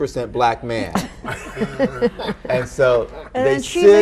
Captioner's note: all laughing